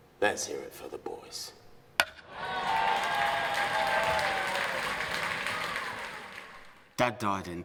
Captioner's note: crowd cheering